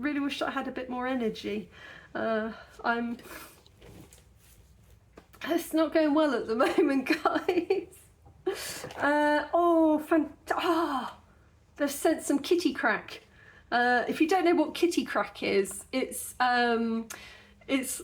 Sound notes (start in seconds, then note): 6.0 laughing; 7.7 gasp